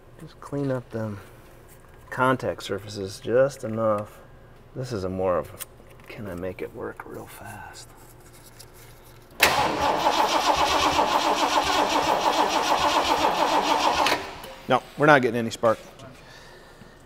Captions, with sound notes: Clean up them contact surfaces just enough. This is a more of, can I make it work real fast? (engine revving) Nope. We're not getting any spark.